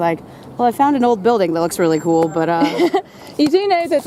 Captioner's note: laughter